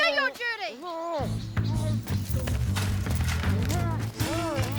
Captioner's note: groaning